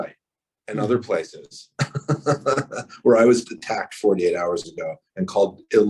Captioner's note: laughs